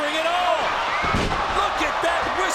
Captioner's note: bodies thud